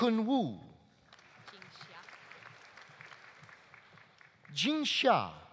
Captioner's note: audience applauding